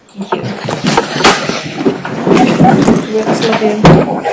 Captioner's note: chatter